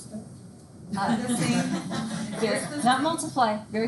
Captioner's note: students laugh